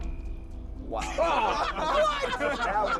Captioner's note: laughter